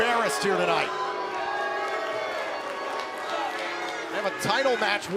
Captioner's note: crowd cheering